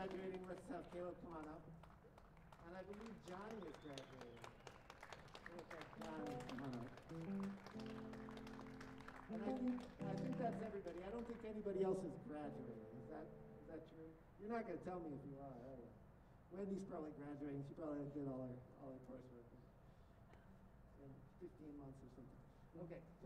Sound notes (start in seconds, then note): 5.2 applause